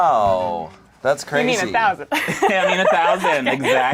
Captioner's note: laughs